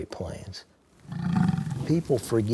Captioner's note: bison grunt